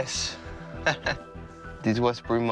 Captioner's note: chuckles